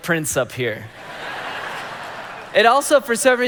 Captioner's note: congregation laughing